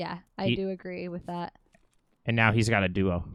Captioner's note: none